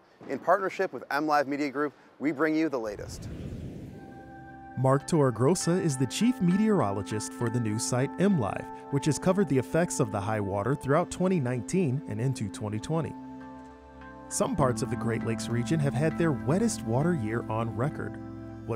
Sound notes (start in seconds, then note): 2.9 air whooshing; 3.4 calming music